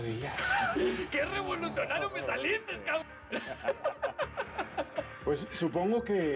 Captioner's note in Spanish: riendo; risas